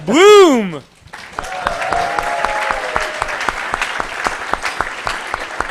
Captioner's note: cheering, applause